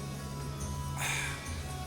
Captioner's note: sighing